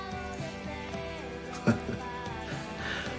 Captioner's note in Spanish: Risas